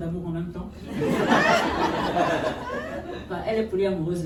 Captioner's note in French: rires